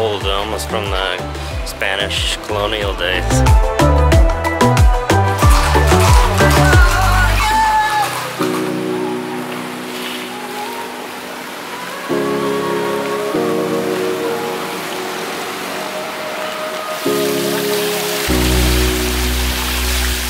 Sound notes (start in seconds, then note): 5.3 horses galloping; 9.4 chill music